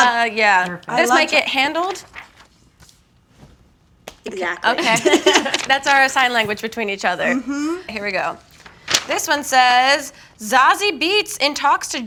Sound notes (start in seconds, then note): 4.8 laughing